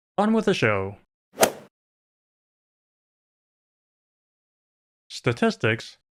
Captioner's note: golf ball hit sound